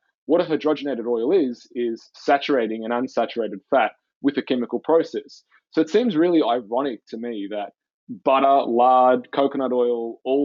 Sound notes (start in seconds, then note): none